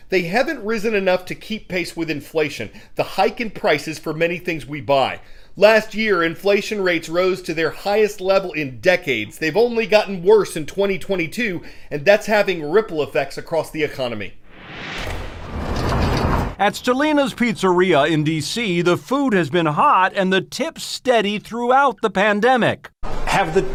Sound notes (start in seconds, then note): 16.1 voice-over